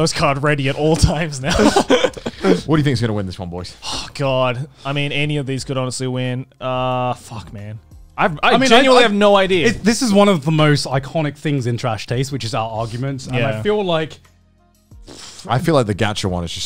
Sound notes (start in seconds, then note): 1.5 laughing